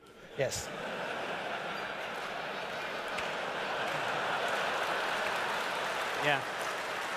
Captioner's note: laughter